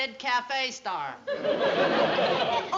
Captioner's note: laughter